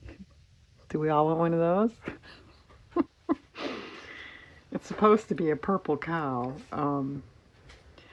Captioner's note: laughs